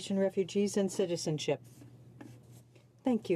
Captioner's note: speaking in french